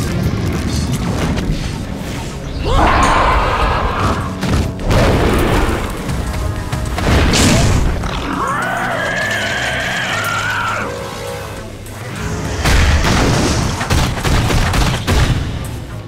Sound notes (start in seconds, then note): 2.6 cloud creature shrieking; 3.9 monsters thudding; 8.1 creatures screeching; 12.9 creature thudding